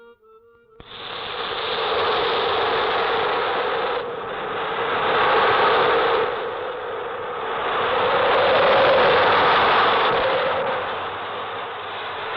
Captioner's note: wind gusting